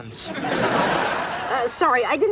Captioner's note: audience laughs